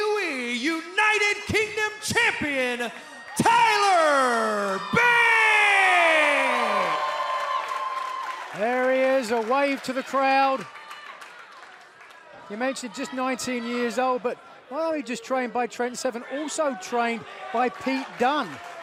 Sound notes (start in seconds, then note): 7.0 cheers and applause